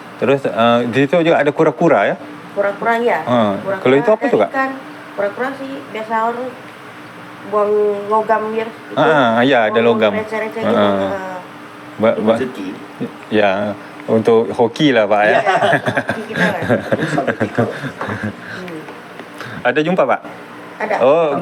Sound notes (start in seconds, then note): 15.3 laughs